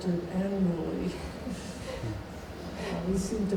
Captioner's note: laughing